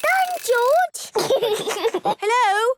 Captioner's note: giggles